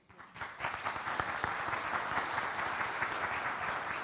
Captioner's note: audience applauds